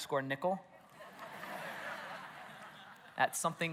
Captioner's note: congregation laughs